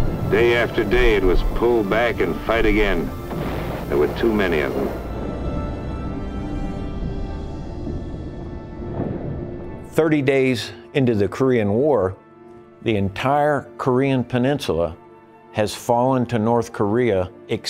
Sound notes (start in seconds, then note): 6.4 gentle music; 8.9 bombs exploding